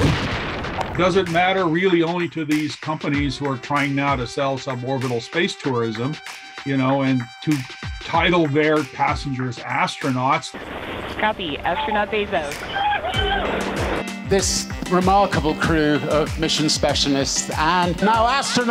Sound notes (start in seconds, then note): 12.0 whooping over radio